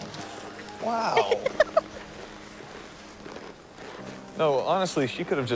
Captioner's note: Cassie laughs